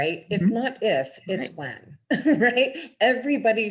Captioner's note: laughs